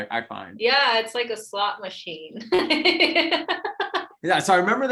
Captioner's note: laughs